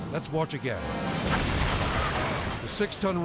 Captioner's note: fire booming